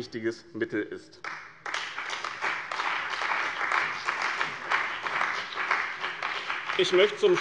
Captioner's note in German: Beifall bei dem BÜNDNIS 90/DIE GRÜNEN und der CDU